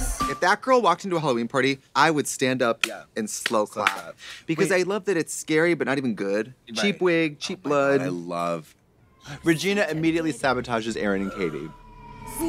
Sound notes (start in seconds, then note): 3.4 clapping hands